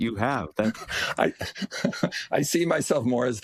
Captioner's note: laugh